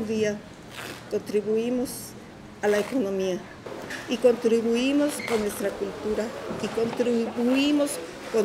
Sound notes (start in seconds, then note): 0.7 people tearing cloth apart and sewing; 5.8 speaking in Spanish